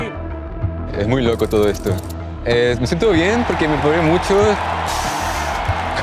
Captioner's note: in Spanish; in English